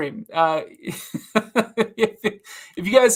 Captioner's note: laughs